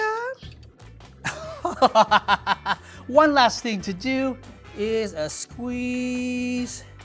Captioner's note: laughs